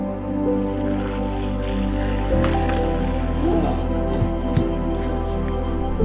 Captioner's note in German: Wasserspritzen